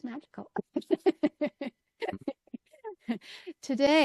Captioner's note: laughs